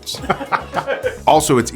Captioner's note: laughs